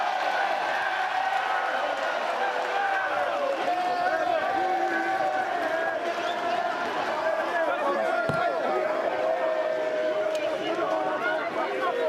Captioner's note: cheering